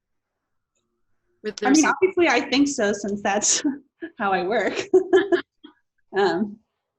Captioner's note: laughs